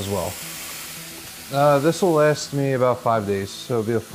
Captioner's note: pans sizzling